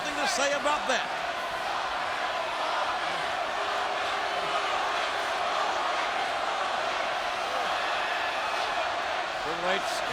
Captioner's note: applause